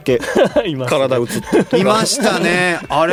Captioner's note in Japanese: 笑い